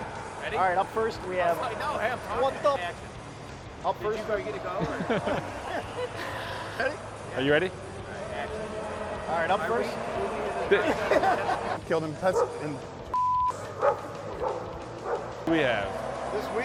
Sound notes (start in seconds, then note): 4.3 laughing; 13.1 beeping; 13.7 dog barking